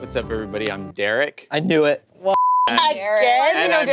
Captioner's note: beep